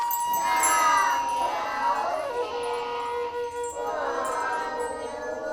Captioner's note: hablan un idioma extranjero